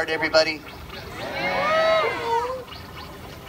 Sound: audience cheers; machine noises

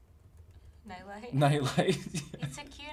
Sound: laughs

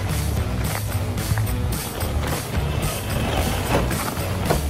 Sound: dirt crunching

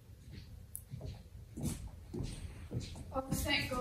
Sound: approaching footsteps

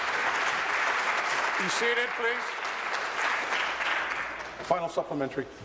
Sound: applause

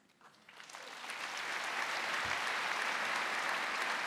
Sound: audience applauding

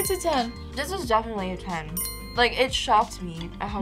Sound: bell chimes

